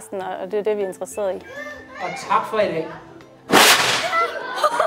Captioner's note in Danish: Eksplosion